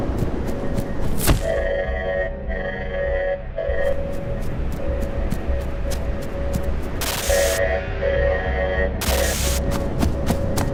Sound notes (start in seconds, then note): 1.4 alarm sounding